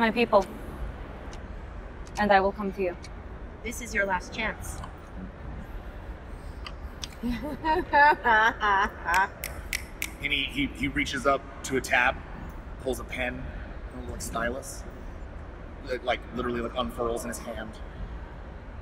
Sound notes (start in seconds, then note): 7.2 laughter; 9.4 snapping